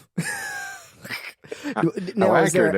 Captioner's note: laughs